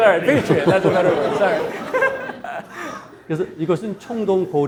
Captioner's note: audience laughing; laughs; speaking in Korean